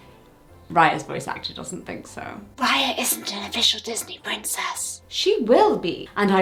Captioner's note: whisper